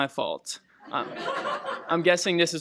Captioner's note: laughter